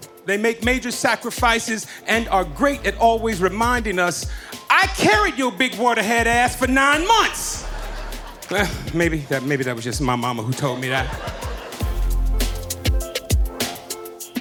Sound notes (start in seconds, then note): 6.9 audience laughing